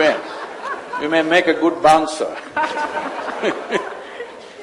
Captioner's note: laughter